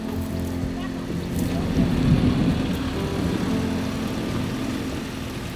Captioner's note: sound of rain and thunder